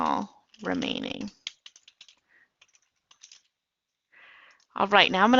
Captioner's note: typing